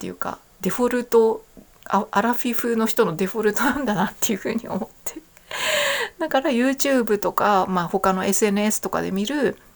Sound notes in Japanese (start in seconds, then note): 3.5 笑い; 5.4 息をのむ音